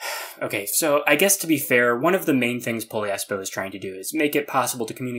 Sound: sigh

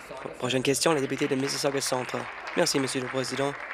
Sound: applause

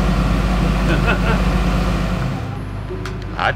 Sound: laughs

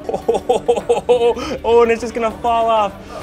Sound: laughing

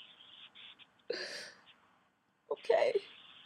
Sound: deep sigh

